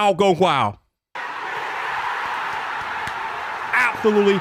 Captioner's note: crowd cheers